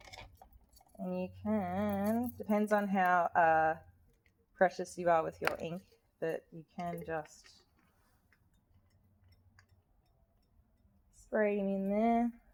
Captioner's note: big squirt